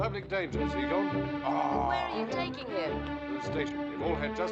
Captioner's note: groaning